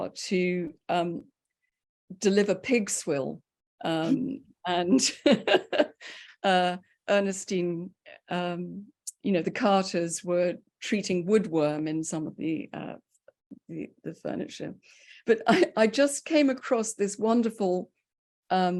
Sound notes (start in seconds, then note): 5.1 chuckles; 5.3 laughs